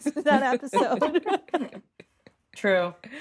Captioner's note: all laughing